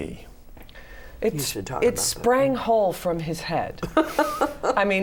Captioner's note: laughter